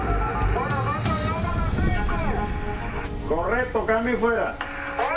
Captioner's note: spanish speaking over the phone